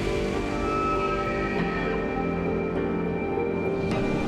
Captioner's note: animal shrieks